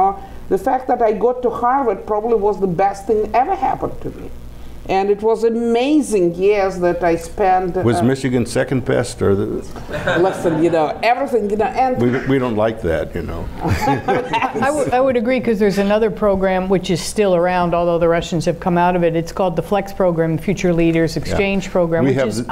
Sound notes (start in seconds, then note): 9.7 laughing; 13.6 laughing